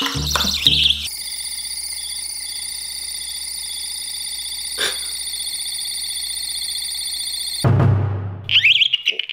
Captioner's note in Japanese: コオロギみたいな音